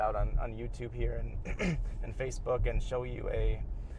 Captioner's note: throat clears